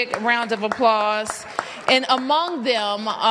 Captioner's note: applause